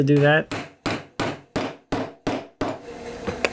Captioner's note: tools bang